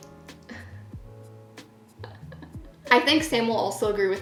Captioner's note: laughing